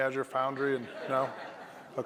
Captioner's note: laughter